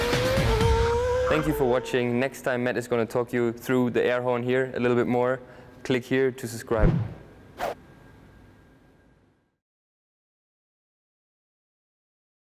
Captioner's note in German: Airhorn